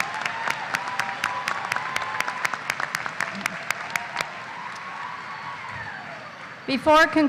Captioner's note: applause